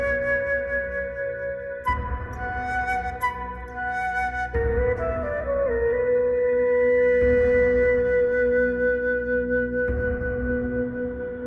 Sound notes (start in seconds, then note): none